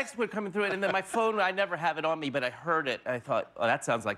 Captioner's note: laughter